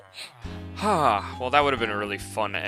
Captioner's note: sigh